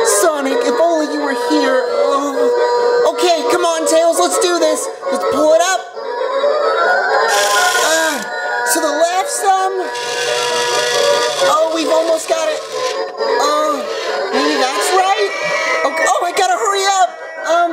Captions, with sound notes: Sonic, if only you were here. Okay, come on Tails let's do this. Let's pull it up. (cranking) To the left some. (cranking) Oh we've almost got it. That's right. Oh, I gotta hurry up!